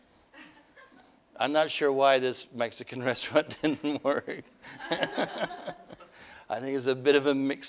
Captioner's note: laughter